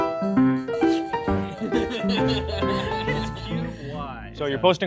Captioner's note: chill music; person laughing; people chattering